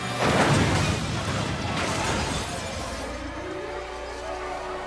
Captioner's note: minivan slams; tense music